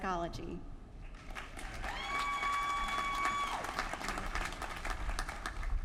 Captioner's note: applause